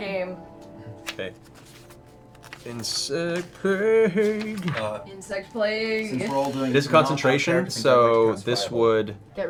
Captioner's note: singing; normal voice